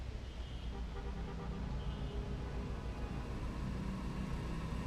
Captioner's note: car horn honking